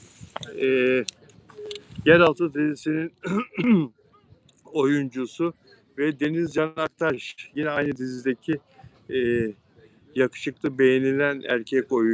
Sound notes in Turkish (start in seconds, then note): 3.2 öksürme; 3.2 boğazını temizler